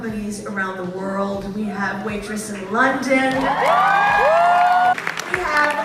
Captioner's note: applause, cheers